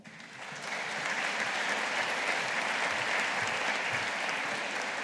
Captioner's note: audience applauding